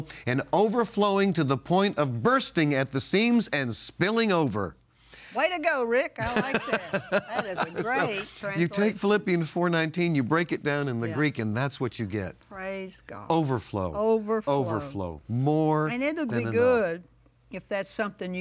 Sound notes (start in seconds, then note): 6.2 laughs